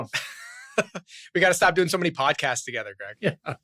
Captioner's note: laughs